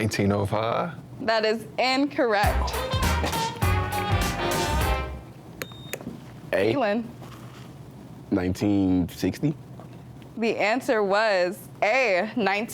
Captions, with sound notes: - That is incorrect. (lively music) (buzzer beeps) - A. - Keelan. - 1960? - The answer was A, 1912.